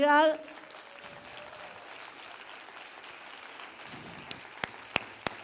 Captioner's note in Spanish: aplausos